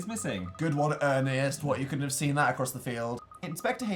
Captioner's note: sarcastically